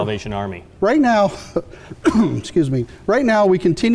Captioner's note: coughs